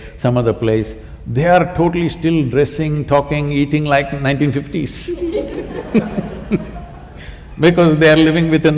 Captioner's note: laughter